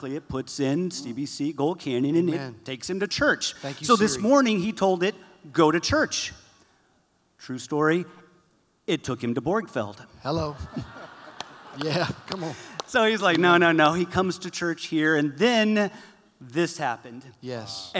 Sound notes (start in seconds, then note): 10.4 laughter